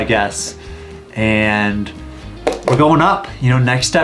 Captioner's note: pencil tapping